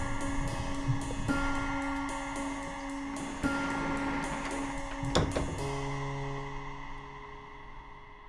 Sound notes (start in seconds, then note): 4.8 door closing